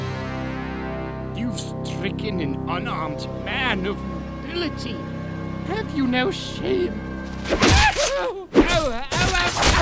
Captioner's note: screams